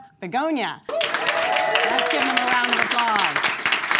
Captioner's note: audience claps